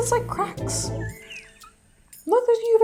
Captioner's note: chuckling quietly